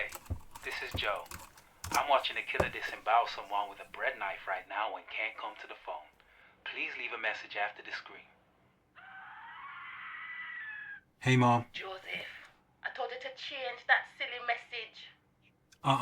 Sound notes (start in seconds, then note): 9.0 woman screaming